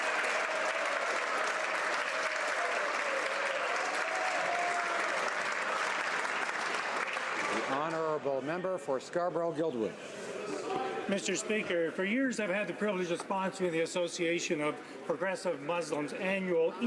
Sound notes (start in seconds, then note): 0.0 applause